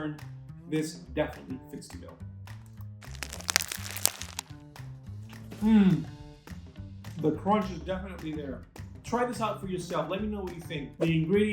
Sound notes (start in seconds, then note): 3.0 crunch